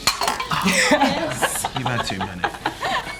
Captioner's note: laughter